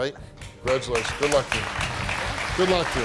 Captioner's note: audience applauding